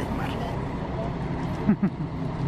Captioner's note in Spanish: sonido ambiente del bus